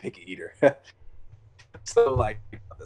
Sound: laughs

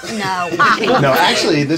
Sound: laughter

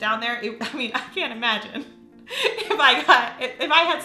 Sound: laughs

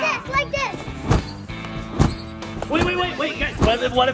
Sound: trampoline squeaking; trampoline booming

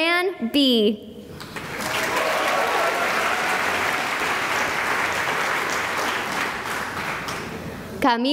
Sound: cheering and applause

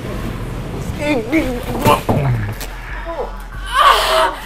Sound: loud groaning; woman yelling

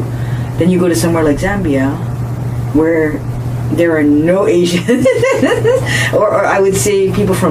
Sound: laughs

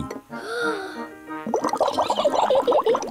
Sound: takes big breath; giggles

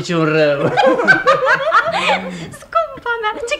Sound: the girls laugh

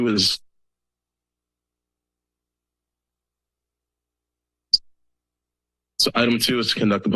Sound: silence

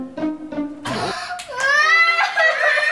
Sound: clapping

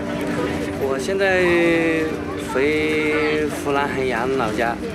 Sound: speaking Chinese

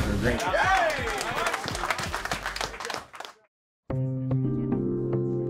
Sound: team cheering; light music

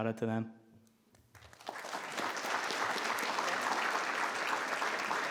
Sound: all clapping

